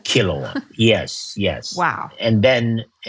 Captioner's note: chuckles